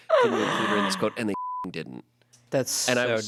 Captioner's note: beep